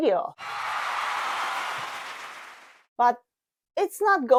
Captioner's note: applause